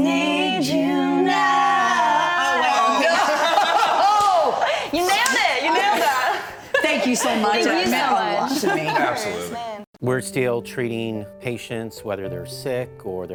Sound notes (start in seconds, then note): 5.1 laughing